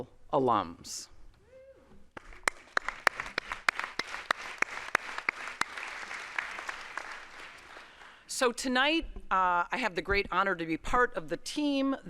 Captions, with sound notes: (audience applauds) So tonight I have the great honor to be part of the team